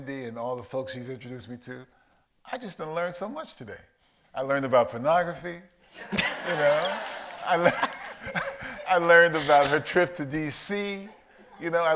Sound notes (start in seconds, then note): 6.0 audience laughs